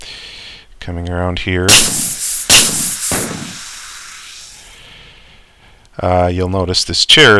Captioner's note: more shooting and fizz